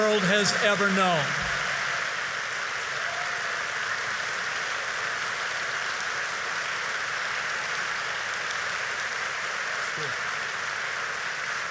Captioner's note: applause